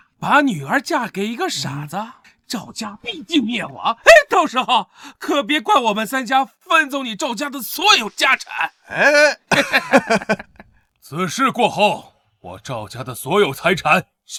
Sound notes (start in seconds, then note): 8.6 mocking laughter